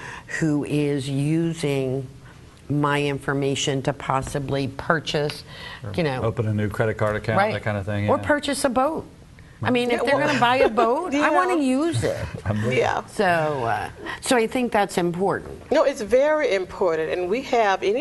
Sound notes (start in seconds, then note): 10.1 laughs